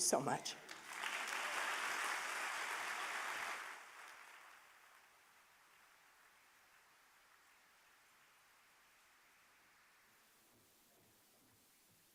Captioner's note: applause